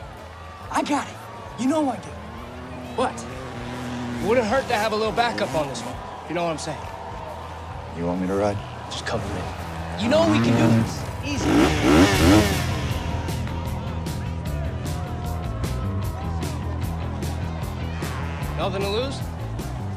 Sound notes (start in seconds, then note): 12.4 engine revs